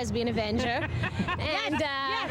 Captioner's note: laughter